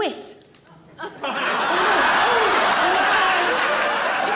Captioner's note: audience laughs